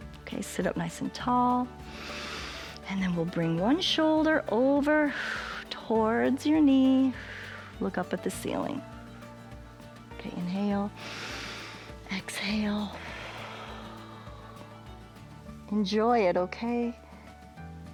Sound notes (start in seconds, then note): 1.9 inhales; 12.7 exhales; 12.8 inhales